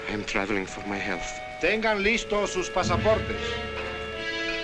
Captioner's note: man announcing in spanish